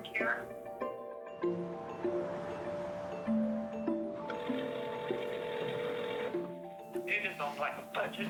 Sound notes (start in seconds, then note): 1.6 subtle music; 1.6 traffic sounds; 4.2 phone ringing